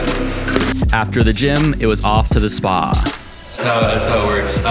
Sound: voiceover

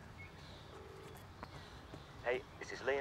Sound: line ringing

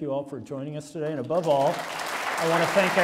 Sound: applause

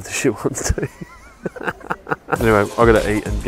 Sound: laughing

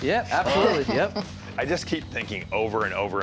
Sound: chuckles

